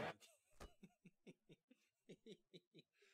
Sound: laughing

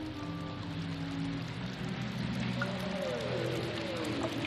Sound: water running

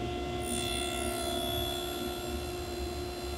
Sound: saw zings

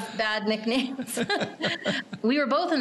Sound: laughing

